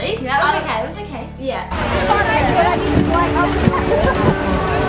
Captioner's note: audience talking